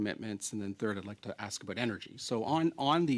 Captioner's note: speaking French